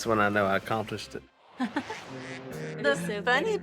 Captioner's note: ducks quacking